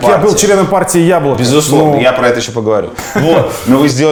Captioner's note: Navalniy laughs